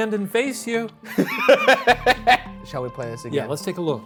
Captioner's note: laughs